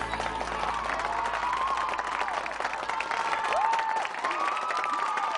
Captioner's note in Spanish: Aclamaciones; Aplausos